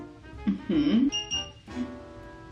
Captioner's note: hair brush beeps